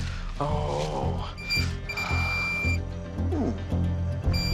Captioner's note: beeping